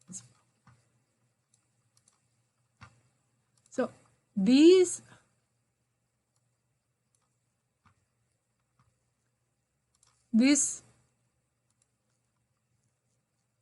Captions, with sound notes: (mouse clickings) So these this